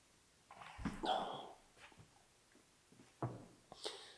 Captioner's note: Jacob groans